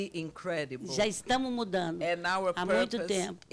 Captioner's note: speaking Portuguese